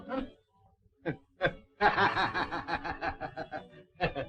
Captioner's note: laughing